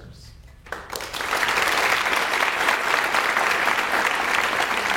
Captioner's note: audience applauds